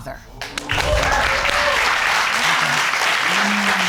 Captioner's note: audience cheering